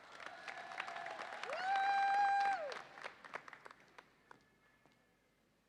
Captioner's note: audience applauds and cheers